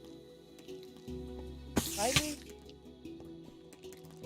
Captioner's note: spiders hiss and fall